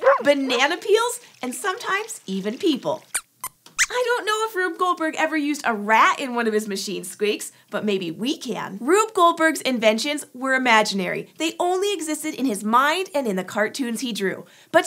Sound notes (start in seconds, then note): 3.1 squeaks squeaks